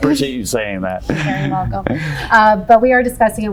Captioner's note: laughs